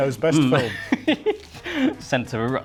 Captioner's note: laughing